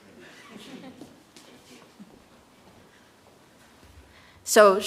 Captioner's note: audience chuckles